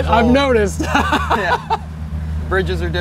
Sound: laughs

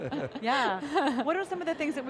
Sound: laughing

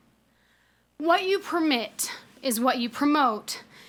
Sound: none

